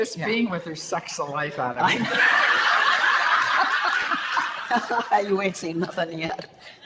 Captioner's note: audience laughter